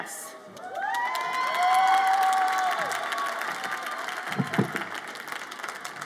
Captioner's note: audience applauds and cheers